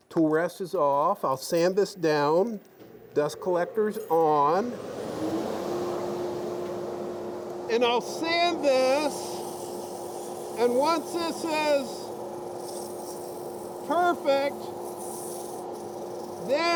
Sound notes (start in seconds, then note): 5.2 dust collector humming